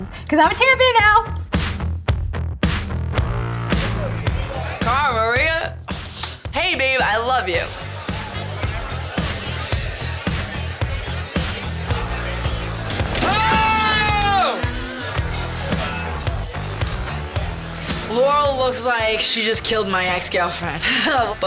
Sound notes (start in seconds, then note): 8.5 all chatting